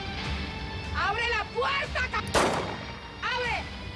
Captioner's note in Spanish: Disparo